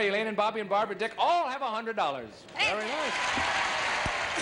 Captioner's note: cheers and applause